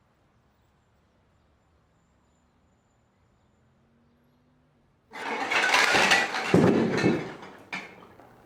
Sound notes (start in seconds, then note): 5.1 crashing